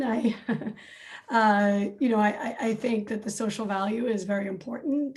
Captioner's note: laughs